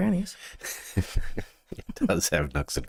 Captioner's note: both Laughing